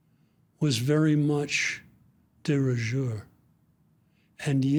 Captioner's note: speaks in foreign language